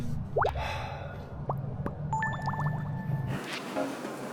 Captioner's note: A deep sigh at the thought of learning choreography